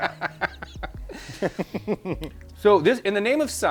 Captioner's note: both laugh